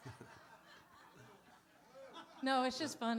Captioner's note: laughter